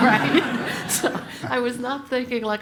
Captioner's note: laugh